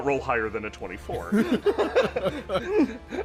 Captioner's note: laughter